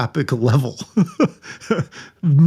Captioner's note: laughing